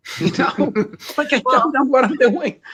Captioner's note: laughs